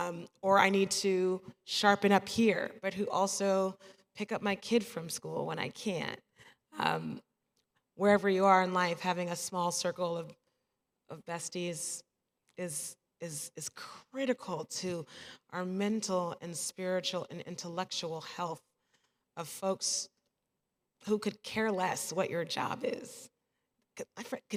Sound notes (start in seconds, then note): none